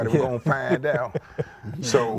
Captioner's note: laughing